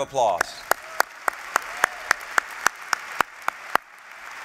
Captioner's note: applause